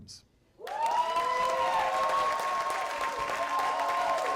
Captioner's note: cheers and applause